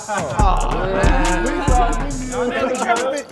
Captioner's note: cheering